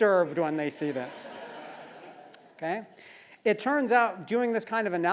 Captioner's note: laugh